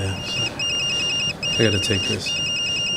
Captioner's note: phone ringing